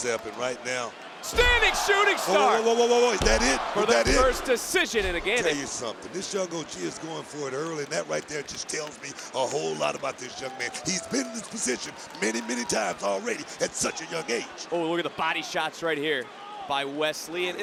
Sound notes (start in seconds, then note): 14.3 crowd cheers